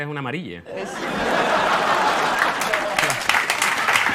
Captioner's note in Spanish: Risas y aplausos